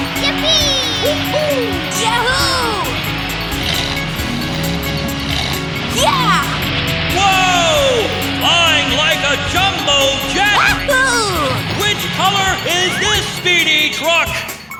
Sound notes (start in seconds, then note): 3.8 revving